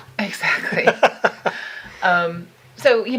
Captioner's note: laughing